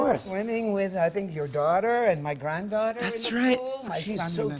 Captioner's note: none